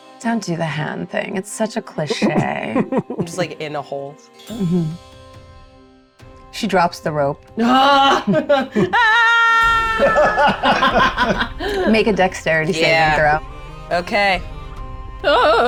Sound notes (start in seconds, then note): 9.9 laughs